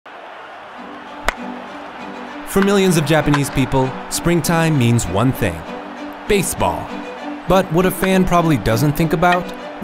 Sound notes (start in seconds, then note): 0.9 pleasant orchestral music; 1.2 bat cracking